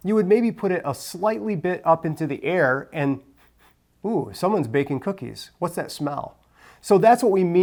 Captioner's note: sniffs